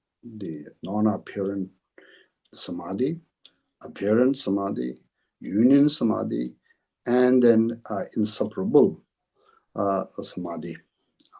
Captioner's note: tibetan